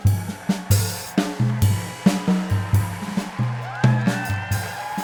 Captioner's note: audience applauding